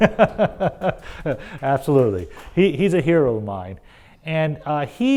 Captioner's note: laugh